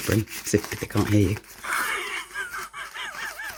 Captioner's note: Muttley laughing